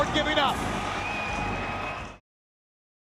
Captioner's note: crowd cheering